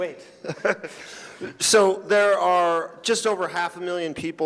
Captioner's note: laughing